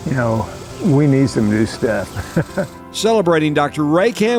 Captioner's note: chuckles